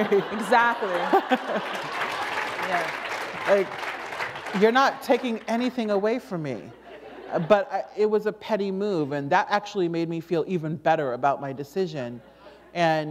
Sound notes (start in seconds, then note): 0.8 applause